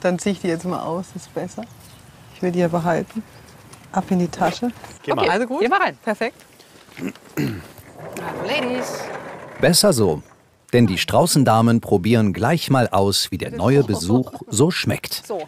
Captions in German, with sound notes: Ich zieh die mal aus, ist besser. Ich will die ja behalten. Ab in die Tasche. Gehen wir rein. - Perfekt. (Räuspern) Hallo, Ladies. Besser so - denn die Straußendamen probieren gleich mal aus, wie der neue Besuch so schmeckt.